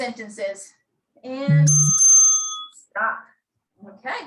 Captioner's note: bell rings